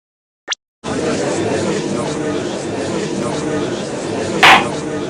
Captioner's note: gallery chattering; gavel slams!